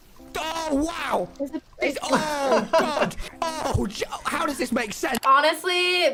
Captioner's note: laughs